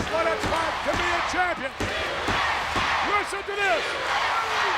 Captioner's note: audience chanting